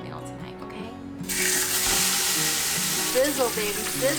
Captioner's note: roast sizzling